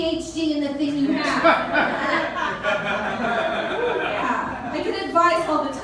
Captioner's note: laughter